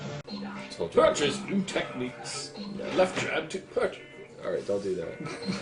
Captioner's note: in his Pickle voice